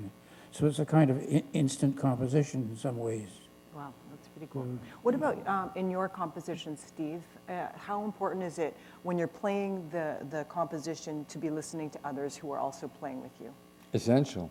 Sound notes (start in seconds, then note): none